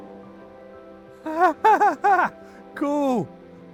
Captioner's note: nervous laughter